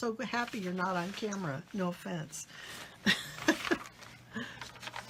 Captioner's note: laughs